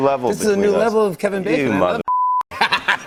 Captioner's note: laughter